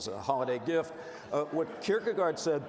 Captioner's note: audience laughs